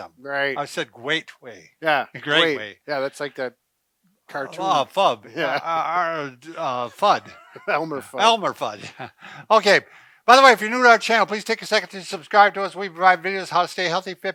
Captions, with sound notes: - Right. - I said great way. - Yeah. - Great way. - Yeah, that's like that cartoon. - Flub. Fudd. - (laughs) Elmer Fudd. - Elmer Fudd. Oka, by the way, if you're new to our channel, please take a second to subscribe to us. We provide videos, how to stay healthy,